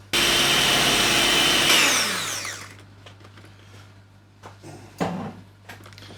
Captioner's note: whisk drill whirring